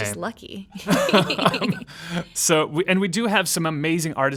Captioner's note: laughing